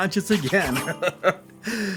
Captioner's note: laughs